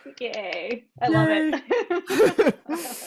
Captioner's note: laughs